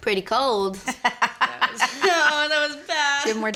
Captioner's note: laughter